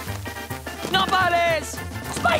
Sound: speaking Spanish

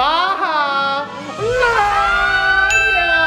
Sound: laughing

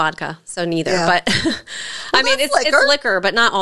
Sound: chuckles

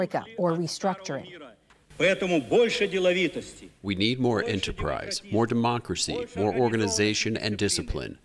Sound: through translator

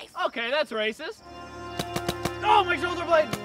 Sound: paintball gunfire

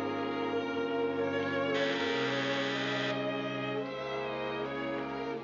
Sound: doorbell buzzes

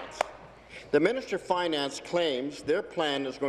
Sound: applause

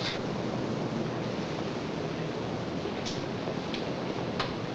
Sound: machinery rumbling

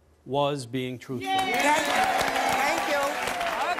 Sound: audience applause

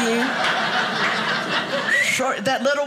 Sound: audience laughing

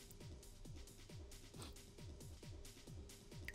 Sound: sniff

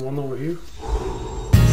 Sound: breath

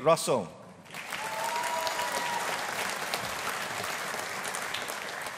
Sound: audience applauding

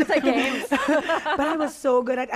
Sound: all laugh

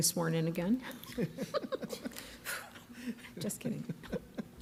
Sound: laughing

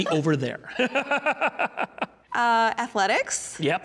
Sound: laughing

